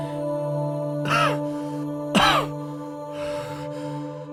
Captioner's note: coughing